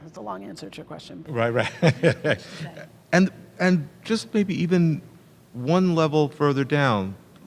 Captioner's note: laugh